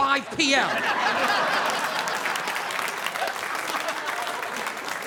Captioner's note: audience laughing; audience applauding